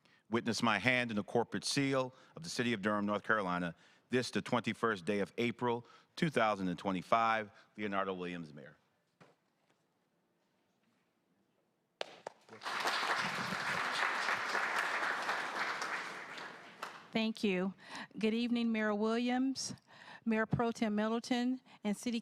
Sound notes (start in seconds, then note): 14.7 applause